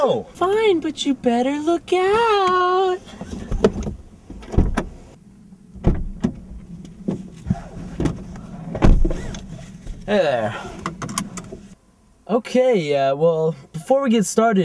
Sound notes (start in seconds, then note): 4.3 door Open; 8.7 door Close; 10.6 buckling Seat Belts